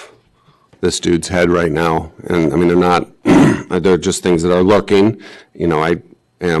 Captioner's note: clears throat